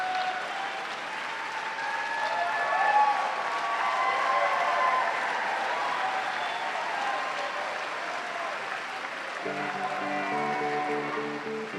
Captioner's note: cheers and applause